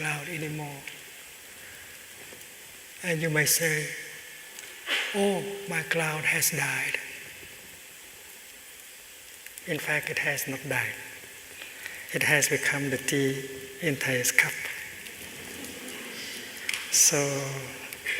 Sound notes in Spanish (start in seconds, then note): 14.6 Risas